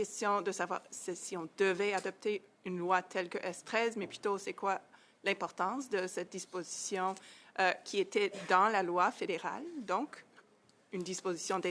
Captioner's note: speaking French